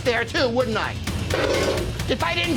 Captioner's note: metal clangs